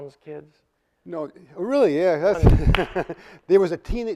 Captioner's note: claps